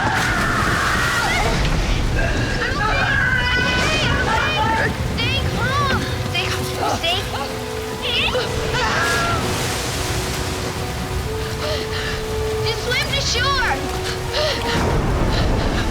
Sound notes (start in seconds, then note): 0.2 Grace screams; 8.0 Grace yells